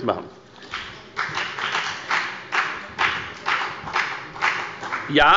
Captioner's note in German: Beifall bei der FDP